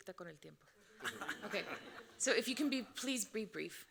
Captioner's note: moderator speaking Spanish; audience laughing